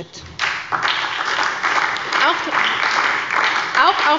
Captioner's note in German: Beifall bei der SPD